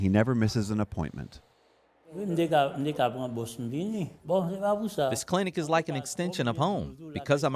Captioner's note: through translator